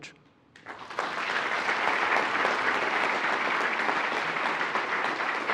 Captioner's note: attendees applauding